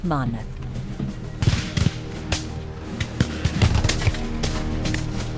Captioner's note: weapons firing